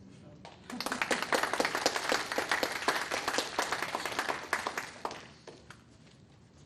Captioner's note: attendees applauding